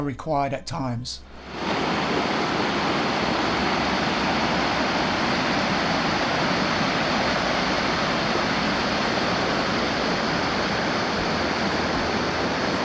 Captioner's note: rushing water